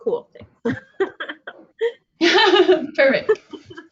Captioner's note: both laugh